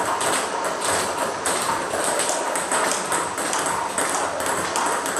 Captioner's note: ball ping pong hitting continues